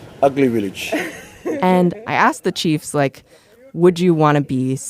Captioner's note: laughs